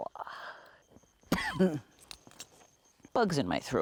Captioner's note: cough